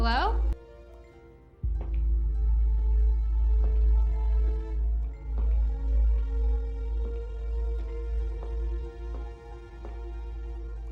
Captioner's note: clattering